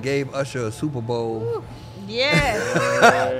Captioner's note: guest oohing; laughing